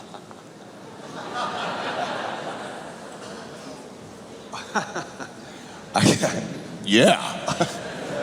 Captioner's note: people laughing